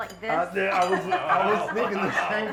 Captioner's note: laughs